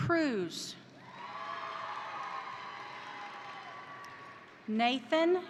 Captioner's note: crowd cheering; crowd applauding